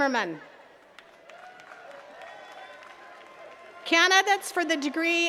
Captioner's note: attendees cheering and clapping